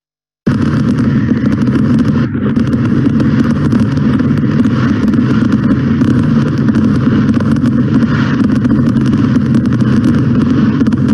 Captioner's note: fireworks exploding in background